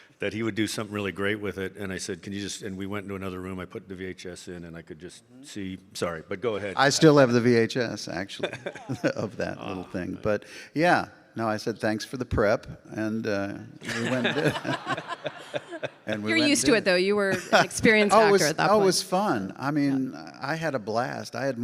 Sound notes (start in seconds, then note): 13.8 laughs; 13.8 audience laughing